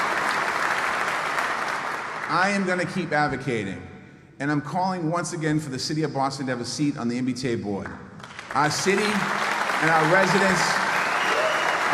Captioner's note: applause